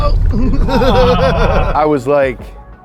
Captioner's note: laughs